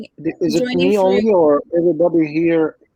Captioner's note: chatter